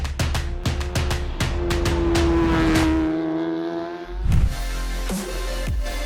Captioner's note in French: Musique joyeuse; Bruit de moteur; Musique entraînante